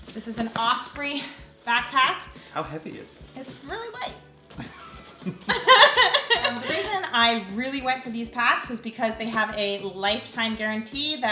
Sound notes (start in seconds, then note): 4.5 both laughing